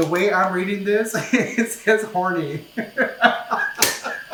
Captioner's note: laughing; laughs